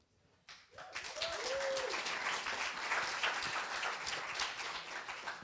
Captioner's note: applause